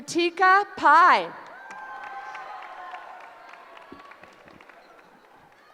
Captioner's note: cheering